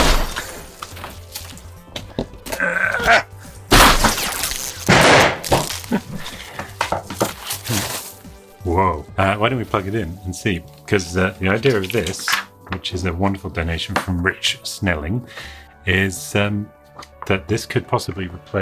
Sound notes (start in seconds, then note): 0.2 glass breaking; 4.8 object thudding